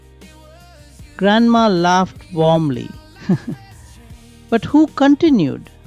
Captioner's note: laughs